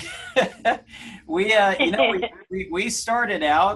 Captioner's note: laugh